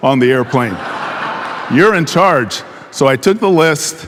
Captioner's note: audience laughing